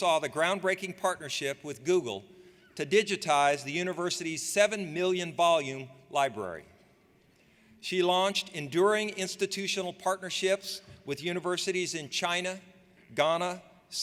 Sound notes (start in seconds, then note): none